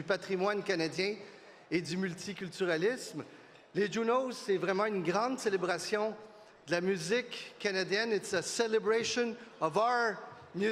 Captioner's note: speaking French